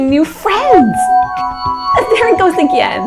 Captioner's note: ringing